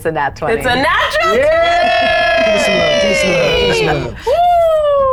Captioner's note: players cheering